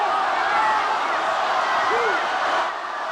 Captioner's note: crowd cheering